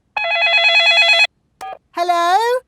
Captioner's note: dialing; cell phone ringing